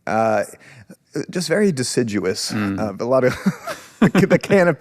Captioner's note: laughs